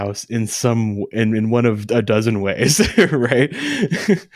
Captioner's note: laughs